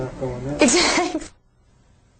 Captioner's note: laughs